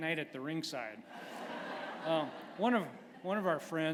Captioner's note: laughter